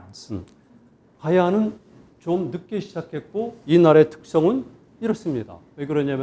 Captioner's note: speaking in Korean